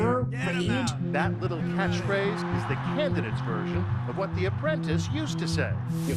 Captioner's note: soundbite of archived recording